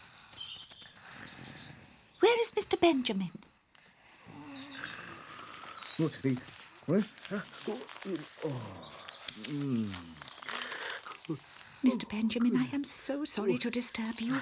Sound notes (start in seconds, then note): 5.9 mumbling